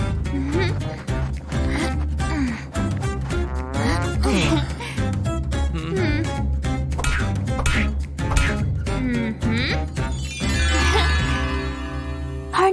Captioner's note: groans